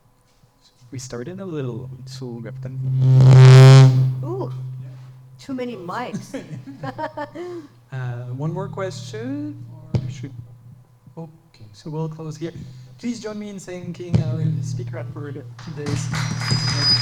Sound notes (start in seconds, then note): 3.0 microphone buzzing; 5.8 laughs; 15.6 audience applauds